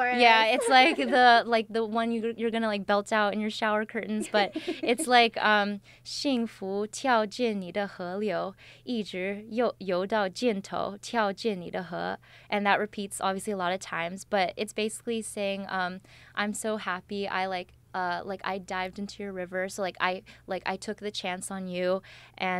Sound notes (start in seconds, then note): 6.1 speaks in Chinese with pinyin